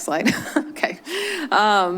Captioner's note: chuckles